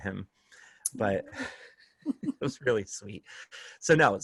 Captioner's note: laughter